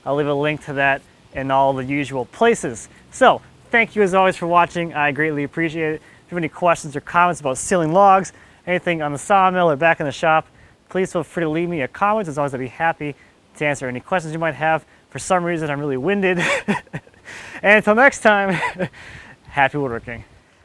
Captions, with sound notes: I'll leave a link to that in all the usual places. So, thank you, as always, for watching. I greatly appreciate it. If you have any questions or comments about sealing logs, anything on the sawmill or back in the shop, please feel free to leave me a comment. As always, I'll be happy to answer any questions you might have. For some reason, I'm really winded. (laughs) And 'til next time, happy woodworking.